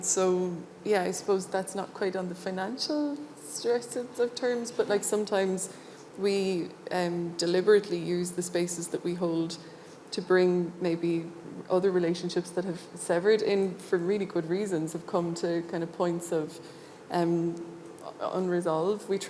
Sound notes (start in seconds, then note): none